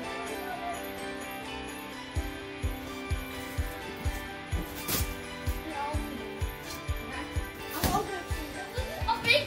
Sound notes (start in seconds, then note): 4.6 wrapping paper rustling